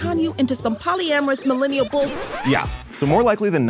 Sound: record scratching

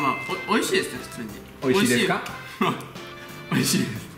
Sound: mimicking foreigners

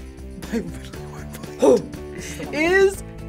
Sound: laughs

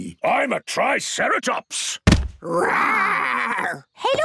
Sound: thudding

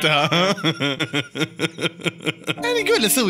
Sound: laughter

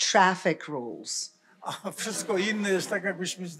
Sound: laughter; foreign language

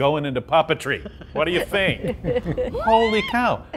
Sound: laughing

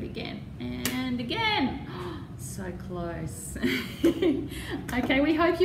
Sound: laughter

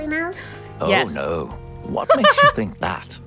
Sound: laughs

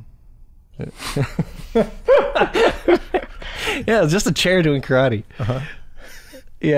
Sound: laughter

